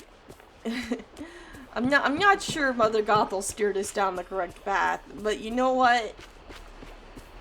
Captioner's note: laughs